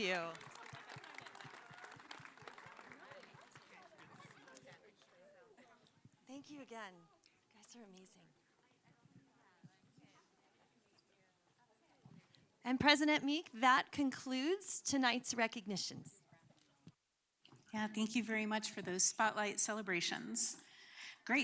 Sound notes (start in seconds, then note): 5.5 applause